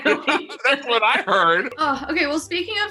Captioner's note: laughter